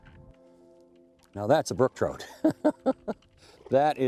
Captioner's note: laughs